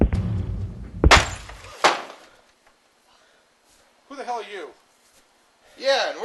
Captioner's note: gate bangs